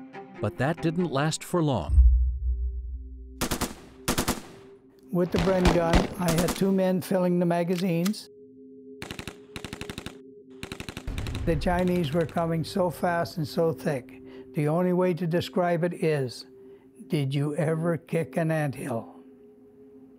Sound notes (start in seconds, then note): 3.4 gunshots firing; 8.5 gunshots firing rapidly